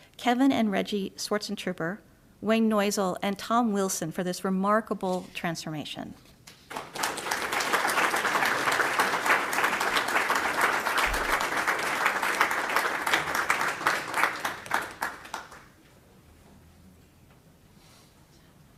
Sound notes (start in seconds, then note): 6.5 applause